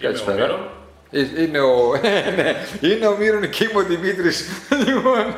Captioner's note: laughter; laughter